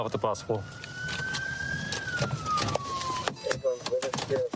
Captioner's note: sirens blaring